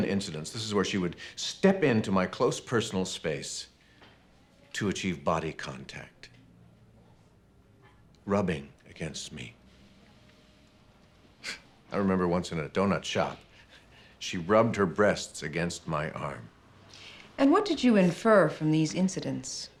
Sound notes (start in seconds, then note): 11.2 scoffs